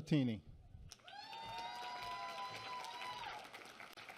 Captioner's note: applause